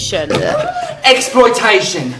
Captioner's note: burping buzzing sound